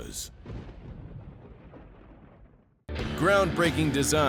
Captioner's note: thunder